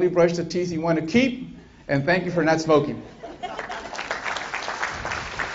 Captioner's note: applause